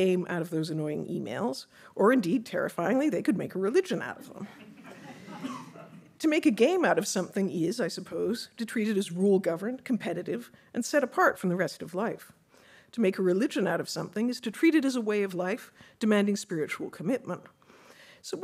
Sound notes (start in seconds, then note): 4.2 audience laughing